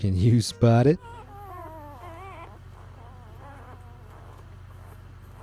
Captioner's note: puppies grunting